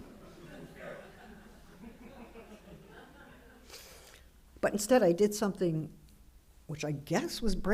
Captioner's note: laughter